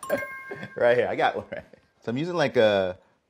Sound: laughing

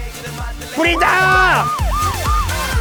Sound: siren sounds

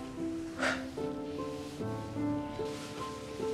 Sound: moon's sigh

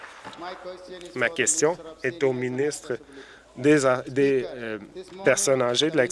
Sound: some Applause

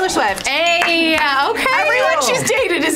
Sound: dinging sound

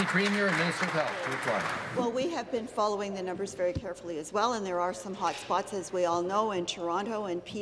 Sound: applause

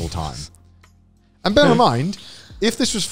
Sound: snickering

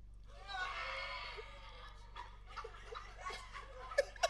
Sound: audience reacts

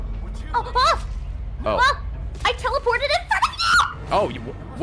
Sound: screams

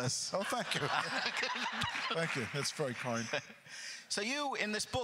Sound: laughs

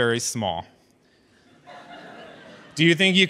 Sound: audience chuckles

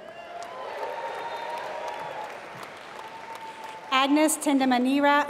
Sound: applause

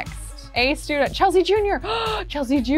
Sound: gasps

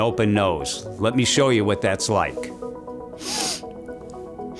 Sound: sniffs

